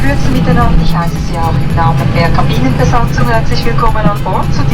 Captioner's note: cabin crew announcement